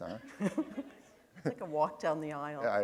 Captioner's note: laughter